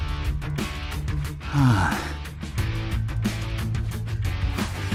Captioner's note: sigh